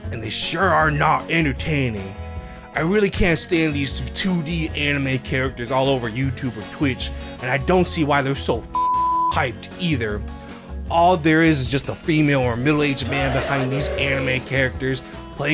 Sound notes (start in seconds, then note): 9.5 beep